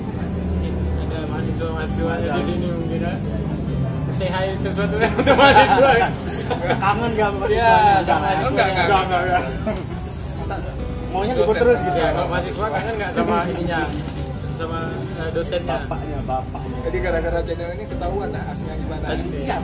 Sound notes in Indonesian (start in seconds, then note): 4.8 laugh